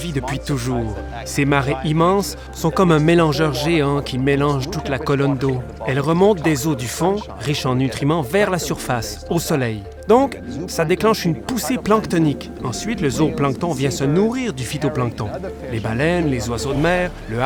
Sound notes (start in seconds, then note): 5.0 water bubbling